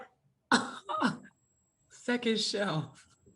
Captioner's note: laughs